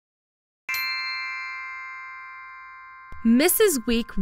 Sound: bells chime

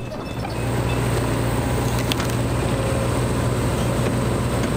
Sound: machine whirring

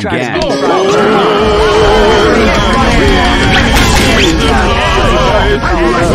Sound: background fighting

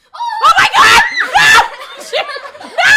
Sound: screams

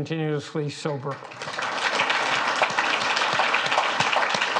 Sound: audience claps

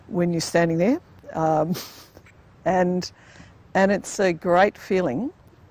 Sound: laughs

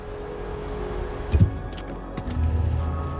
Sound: light whirring; soft clacking; calm music

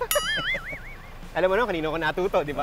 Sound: both laughs

